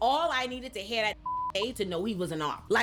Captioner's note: beep